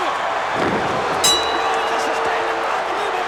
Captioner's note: bell rings